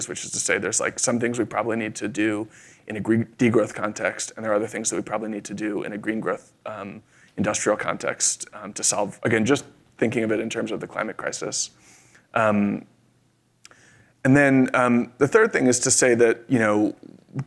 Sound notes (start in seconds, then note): none